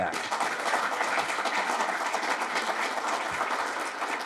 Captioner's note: audience clapping